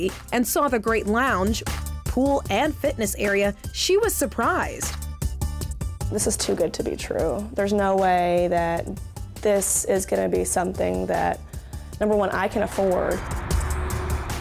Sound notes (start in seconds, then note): none